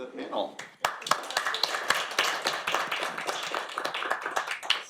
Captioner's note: all applauding